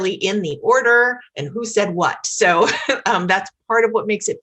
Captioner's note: chuckles